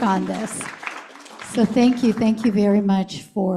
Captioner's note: applause